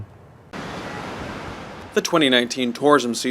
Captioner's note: the sound of wind blowing and waves crashing